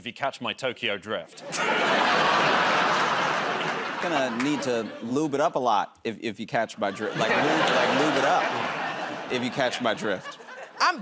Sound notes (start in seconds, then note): 1.4 laughter